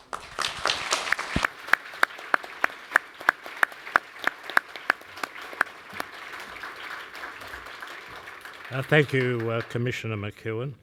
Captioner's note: applause